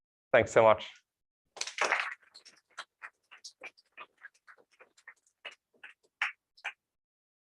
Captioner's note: applause